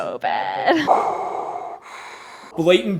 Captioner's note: Darth Vader breathing